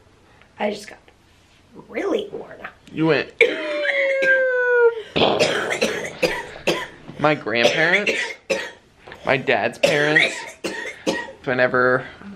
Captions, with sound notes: I just got really worn out. You went [makes crash and explosion sound] My grandparents, my dad's parents whenever